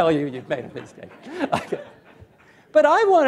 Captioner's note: laughter